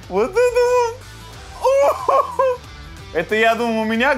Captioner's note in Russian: смеётся